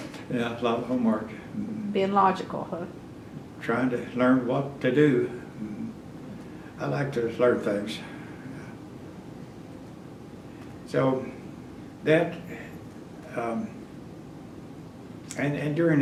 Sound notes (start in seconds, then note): 1.6 laughs